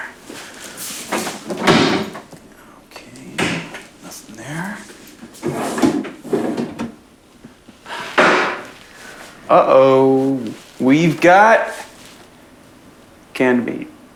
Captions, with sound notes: Let's see what we got going on here. (drawers opening and closing) Okay, nothing there. Uh-oh, we've got